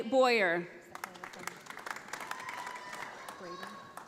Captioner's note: audience applauding